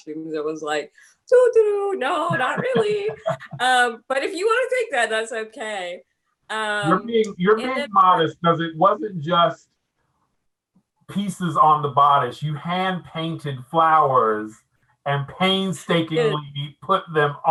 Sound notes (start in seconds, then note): 2.3 laughing